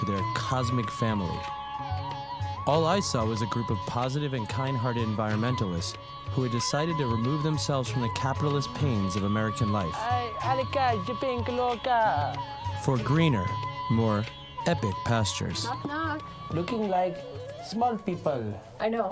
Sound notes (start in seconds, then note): 10.1 speaks In Foreign Language; 10.1 用外语说话